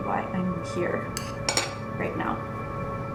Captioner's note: fork scrapes, clinks